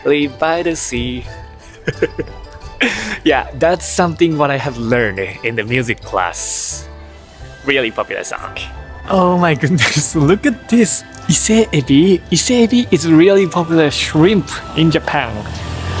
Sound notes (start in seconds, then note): 1.6 laughs